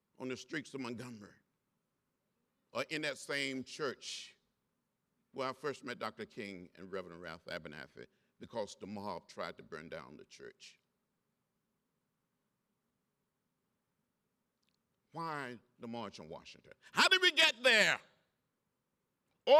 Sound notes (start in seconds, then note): none